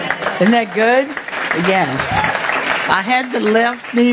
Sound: congregation applauding

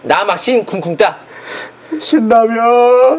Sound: little sob

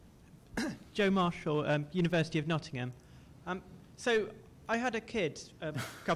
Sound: voiceover

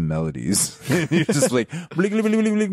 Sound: laughing

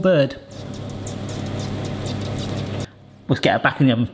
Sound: beetroot sizzling

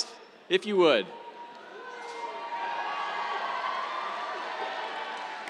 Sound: cheers, applause

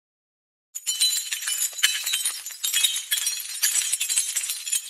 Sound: tile tinkling

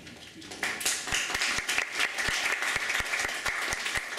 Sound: applause

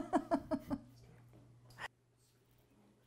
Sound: laughs

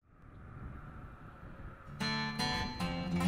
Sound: tractor rumbling; banjo strums

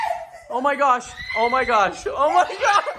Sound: woman screams louder; woman screams; woman screams again

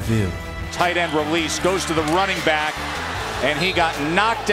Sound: voiceover

